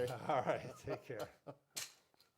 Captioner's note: laughing